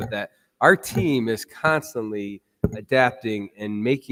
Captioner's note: none